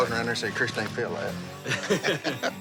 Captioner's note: laughing